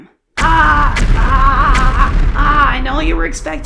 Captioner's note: explosion Noises